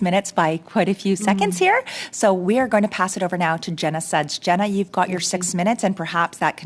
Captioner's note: speaking French